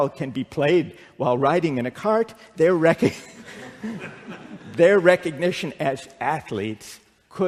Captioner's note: laughter